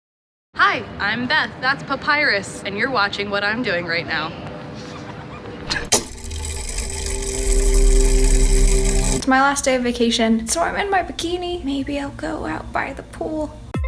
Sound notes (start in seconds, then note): 4.7 laughs; 5.6 mechanism whirring